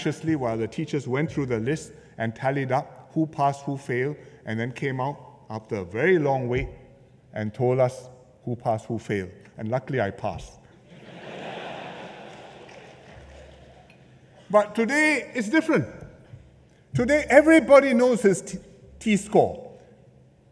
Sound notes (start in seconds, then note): 10.8 laughter